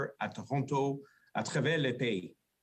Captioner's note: speaking French